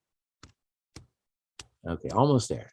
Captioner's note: keyboard typing